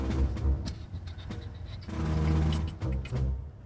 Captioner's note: Downbeat quietly beatboxing